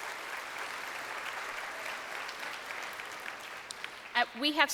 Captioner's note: crowd applauding